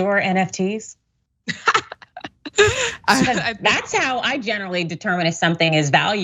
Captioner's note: laugh